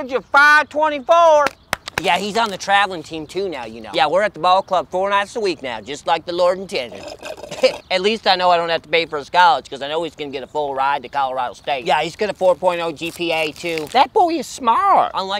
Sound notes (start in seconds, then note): 1.4 hands clapping; 6.8 drink slurps